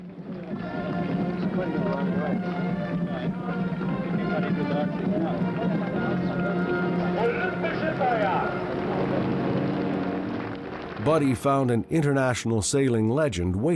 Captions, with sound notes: (lively music) (people chattering) Buddy found an international sailing legend